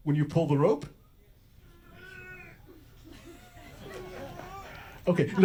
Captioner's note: grunting sounds from an audience member